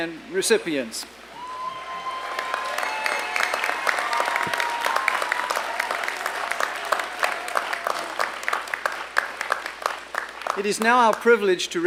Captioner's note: applause and cheering